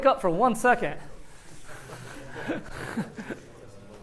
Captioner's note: laughter